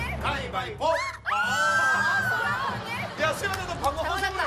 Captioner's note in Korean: 꺄악